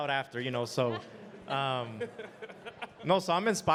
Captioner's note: panelists laughing